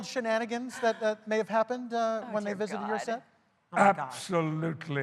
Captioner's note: laughter